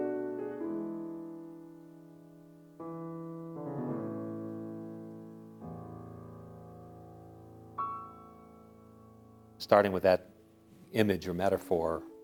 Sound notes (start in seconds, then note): none